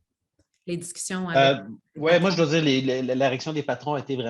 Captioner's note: speaks French; speaks French